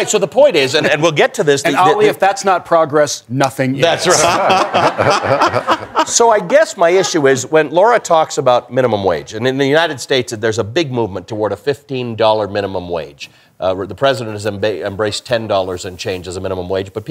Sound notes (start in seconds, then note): 4.0 laughter